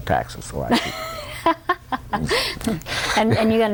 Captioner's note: laughter